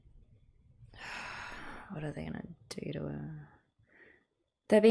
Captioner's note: sighs